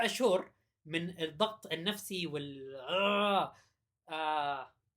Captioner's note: ugh